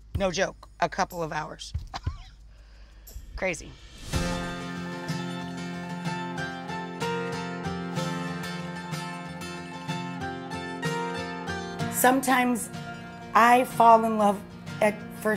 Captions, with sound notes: No joke, a couple of hours. (chuckles) Crazy. (gentle folk music) Sometimes, I fall in love at first sight